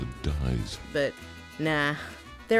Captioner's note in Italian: voce fuori campo